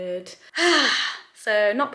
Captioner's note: sighs